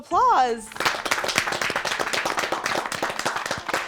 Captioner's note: all applaud